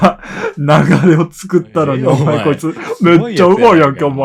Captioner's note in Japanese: 笑い